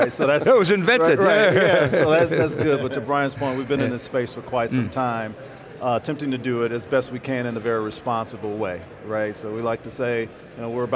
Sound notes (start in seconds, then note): 1.0 laughs